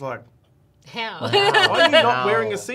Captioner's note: laughs